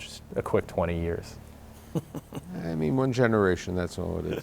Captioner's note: laughs